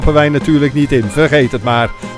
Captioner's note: voiceover